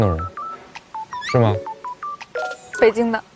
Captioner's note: confident